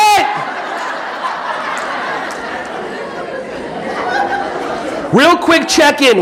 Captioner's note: audience laughing